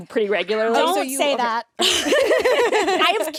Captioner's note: laughs